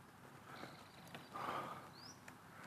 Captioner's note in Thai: เสียงถอนหายใจ